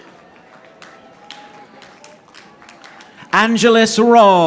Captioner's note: audience applauding